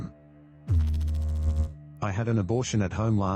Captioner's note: electrical noise